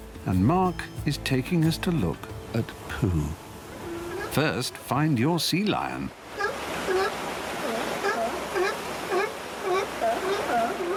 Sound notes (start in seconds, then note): 6.3 sea lions barking